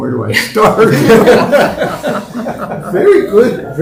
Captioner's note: laughter